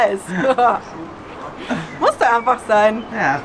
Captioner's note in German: Lachen